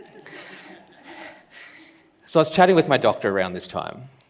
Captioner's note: laughs